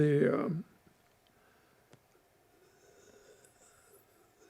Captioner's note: pauses 6 seconds